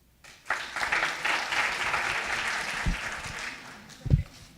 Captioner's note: audience applauding